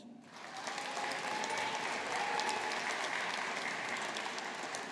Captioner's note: audience applauding